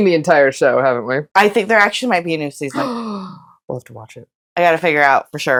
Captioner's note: gasp